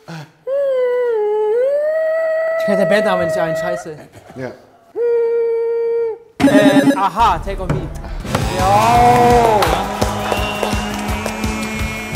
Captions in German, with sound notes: (Hohes Summen) Mir fällt der Bandname nicht ein. Scheiße. (Summen) a-ha "Take On Me". Ja! (Dynamische Musik, Jubel)